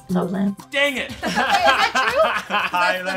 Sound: laughing

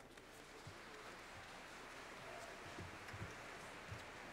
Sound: applause

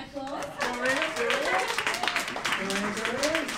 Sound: clapping

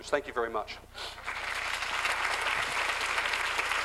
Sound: applause

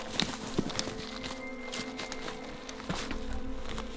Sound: elk Bugling

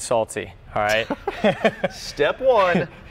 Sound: chuckles

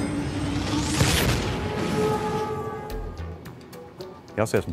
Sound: dramatic music; whooshing

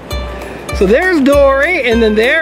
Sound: voiceover

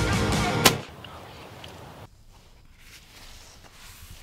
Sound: gunshot

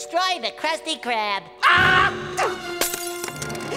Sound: screams

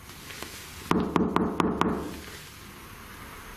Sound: knocks

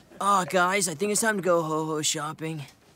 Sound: none

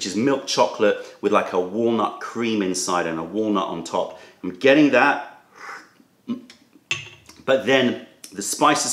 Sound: sips tea

